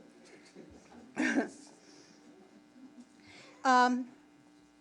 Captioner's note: giggles softly